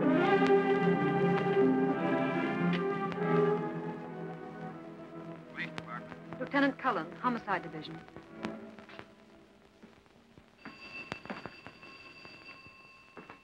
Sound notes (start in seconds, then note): 4.0 on phone; 10.6 phone ringing